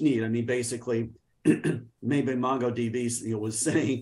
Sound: clears throat

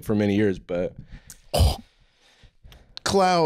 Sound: gasps

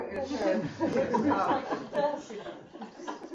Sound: laughter

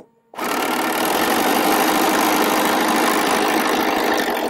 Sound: sewing loudly

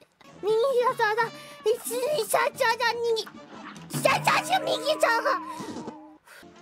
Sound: Magical Gamer Girl Noises

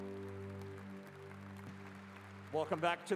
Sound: applause

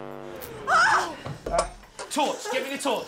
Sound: shrieks

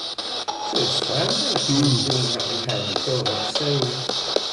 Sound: mumbles

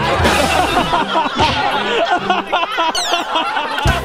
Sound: laughing continues; laughs

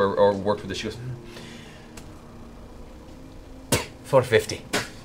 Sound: spits

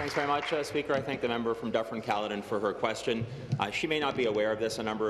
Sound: applause

